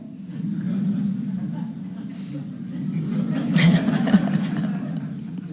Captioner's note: audience chuckling